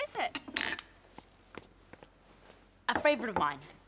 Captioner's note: glasses clinking